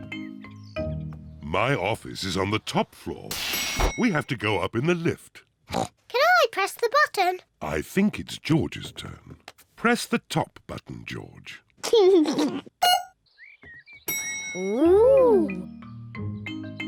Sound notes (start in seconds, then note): 2.7 elevator bell dings; 5.7 oinks; 11.7 giggles; 12.8 beeps; 14.1 elevator bell dings